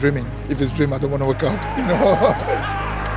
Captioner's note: laughs